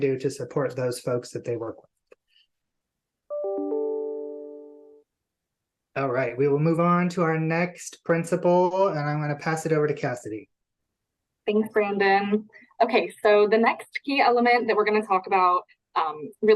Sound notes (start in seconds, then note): 3.3 computer chiming